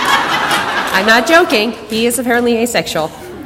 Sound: audience laughter

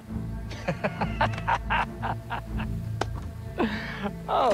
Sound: laughing

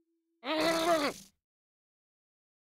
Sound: struggling

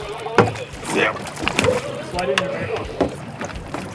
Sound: background chatter

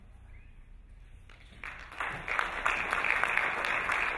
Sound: applauding

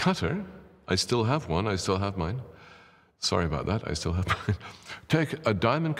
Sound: laughs

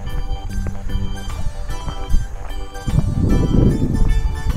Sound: laughs

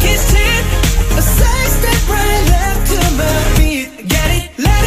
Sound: heartbeat

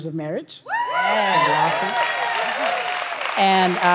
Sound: congregation shouting

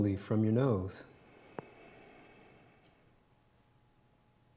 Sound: exhales

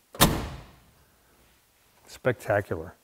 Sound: door clicking; door thudding

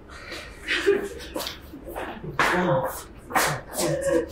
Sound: Kate crying

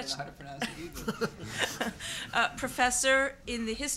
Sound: laughs

